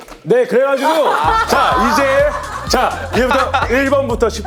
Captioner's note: quickly speaking